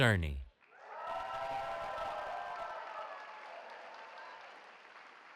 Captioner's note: cheering